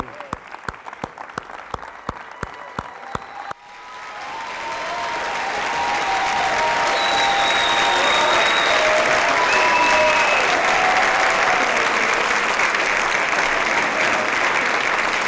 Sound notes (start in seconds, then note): 0.0 applause and Cheering